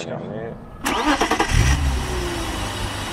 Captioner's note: engine starting sound